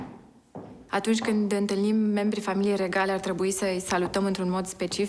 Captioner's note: speaking foreign language